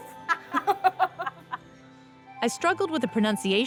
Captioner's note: laughter